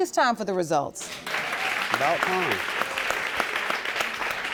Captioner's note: audience applauds